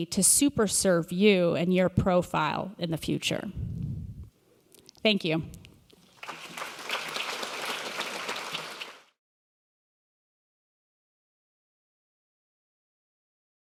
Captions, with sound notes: to super serve you and your profile in the future? Thank you. (Audience applause)